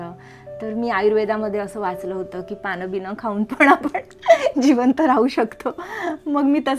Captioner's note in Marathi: हास्य